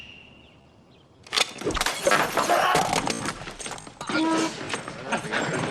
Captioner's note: glass shatters, Woodrow screaming